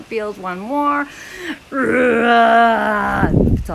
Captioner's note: makes sounds: grrrr